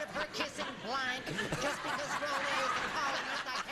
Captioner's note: laughing